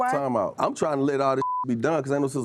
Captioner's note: beep